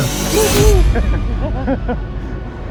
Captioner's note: laughing